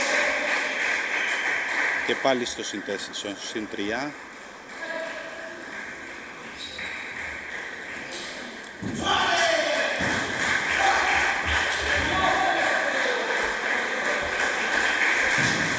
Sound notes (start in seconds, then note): 7.9 applause